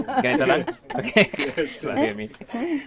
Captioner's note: chuckles